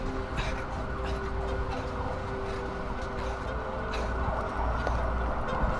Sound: sirens blaring

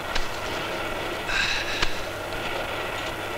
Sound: sighs

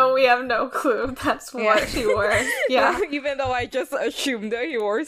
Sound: laughs

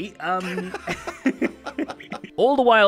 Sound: cracks up

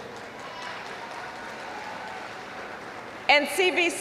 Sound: applause

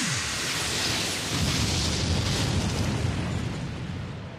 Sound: loud crash

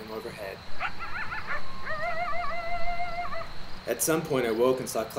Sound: animal sounds

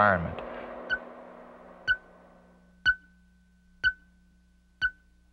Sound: beeping sound

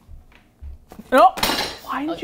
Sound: pizza crashes in sink; in disbelief

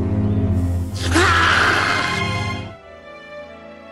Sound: screams

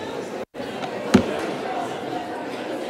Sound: murmur

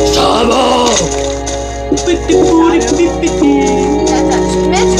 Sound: furious humming

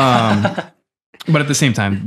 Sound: friar chuckles

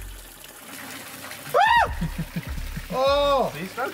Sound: high-pitched scream

